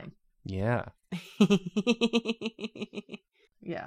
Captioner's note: laughs